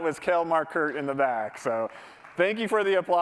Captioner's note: applause